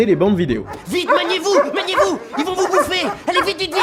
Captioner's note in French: Aboiements